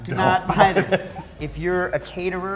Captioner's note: laughter